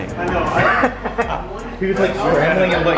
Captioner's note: laughs